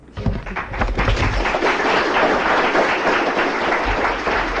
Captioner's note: applause